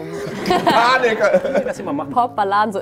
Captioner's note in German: Lachen